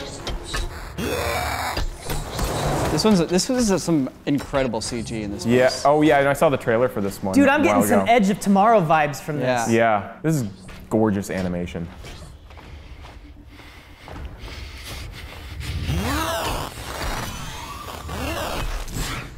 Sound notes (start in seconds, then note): 2.4 big stomps; 16.0 ŝ̸̠͕c̴͓̘̾r̵͔̯̄e̸̙͛̽̽a̷̝͑m̶̘͈͚̈́